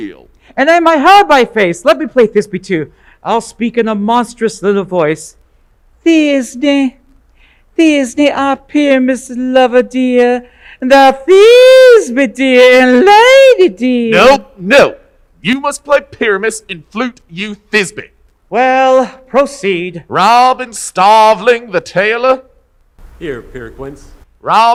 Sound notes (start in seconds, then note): 5.8 falsetto